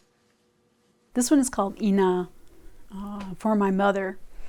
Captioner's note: speaking dakota